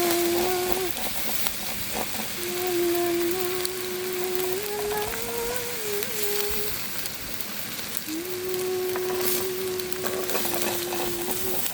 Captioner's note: humming a little song